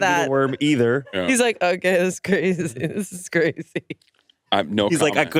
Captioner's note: laughs